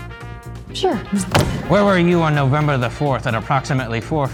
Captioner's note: thud